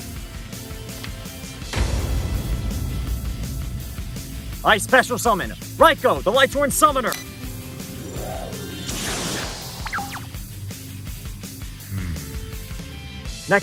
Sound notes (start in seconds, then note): 9.8 ryko bark